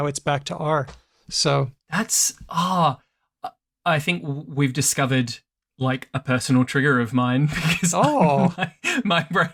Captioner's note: laughs